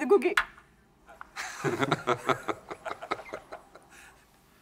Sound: laughs

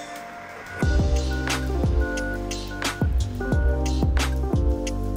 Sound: sling beeping; upbeat music

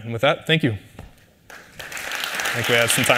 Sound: applause

